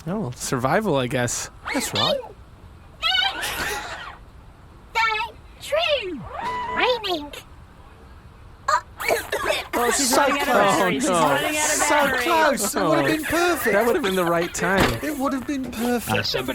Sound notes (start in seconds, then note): 8.7 coughs